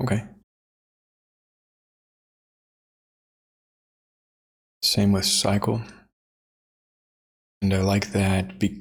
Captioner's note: silence